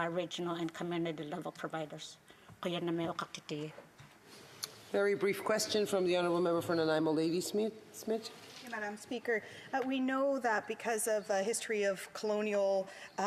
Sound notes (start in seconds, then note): 7.3 speaking indigenous language